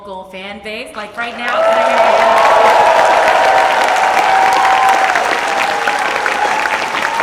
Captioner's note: audience applauds and cheers